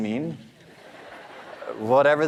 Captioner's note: audience laughing